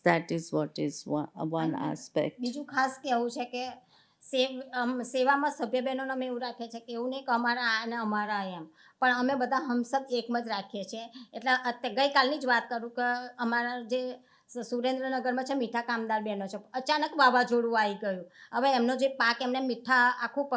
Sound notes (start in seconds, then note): 2.3 speaking gujarati